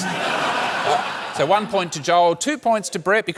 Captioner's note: laughter